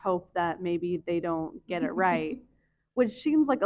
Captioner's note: chuckles